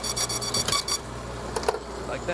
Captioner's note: machine beeps